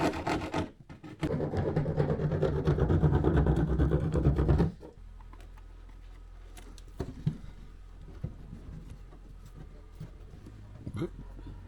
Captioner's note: sawing noises